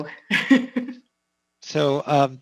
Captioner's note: laughs